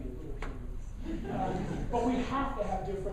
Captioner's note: laughing